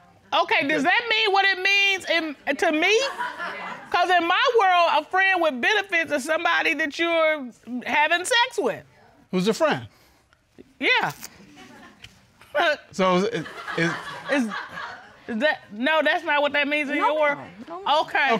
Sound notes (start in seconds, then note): 12.4 scoffs